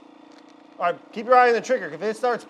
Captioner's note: Nutrichef roaring